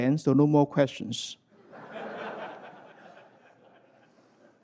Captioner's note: laughter